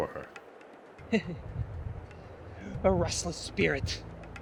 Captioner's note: chuckles